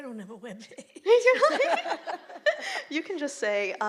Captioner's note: laughter